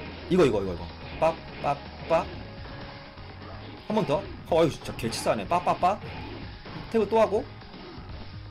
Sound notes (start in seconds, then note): 6.1 sound effects